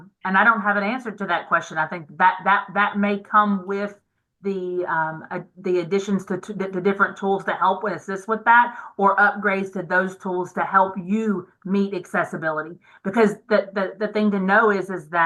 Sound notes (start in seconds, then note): none